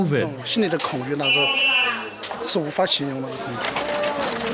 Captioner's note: speaking Mandarin